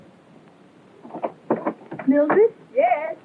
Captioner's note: knock on the door